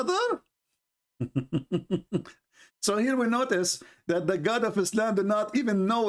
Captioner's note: Ketawa